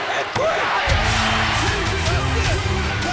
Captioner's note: bell rings